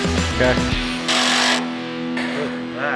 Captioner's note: drilling; upbeat music; drilling